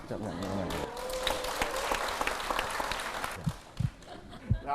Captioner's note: applause